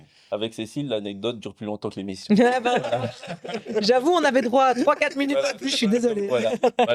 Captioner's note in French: rires